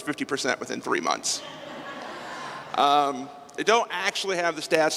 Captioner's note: laughter